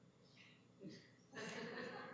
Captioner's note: laughter